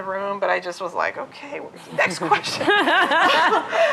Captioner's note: laughter